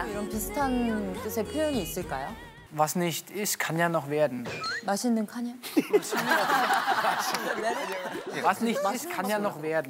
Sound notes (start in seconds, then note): 5.8 laughing